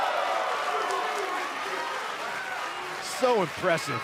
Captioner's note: cheers & applause